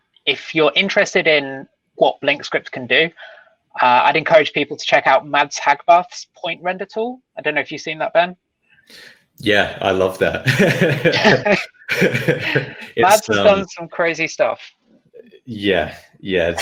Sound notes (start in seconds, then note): 9.4 laughing